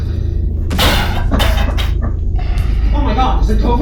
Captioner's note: coughs again